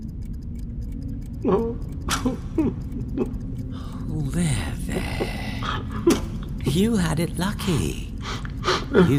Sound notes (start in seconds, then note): 0.7 clock ticking; 2.2 sobbing